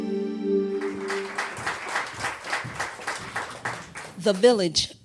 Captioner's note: applause